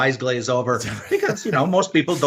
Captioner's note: laughs